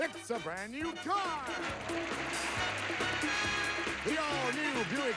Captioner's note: audience applauding